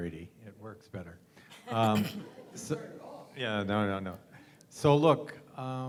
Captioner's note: laugh